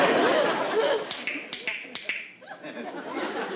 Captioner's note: clicking